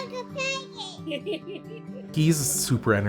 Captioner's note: chuckles